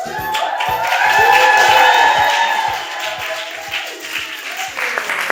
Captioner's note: audience cheering and applauding